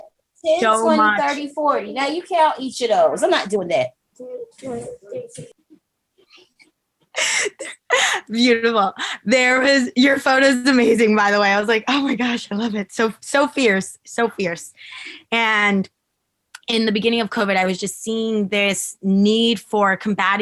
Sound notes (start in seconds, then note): 7.1 chuckles